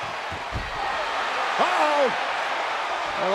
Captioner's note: audience cheering